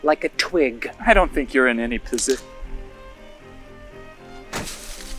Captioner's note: assistant splashes; crackles